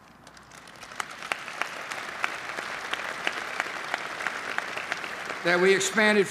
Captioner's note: applause